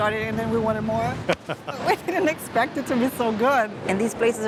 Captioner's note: laughs